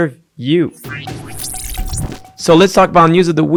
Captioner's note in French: son robotique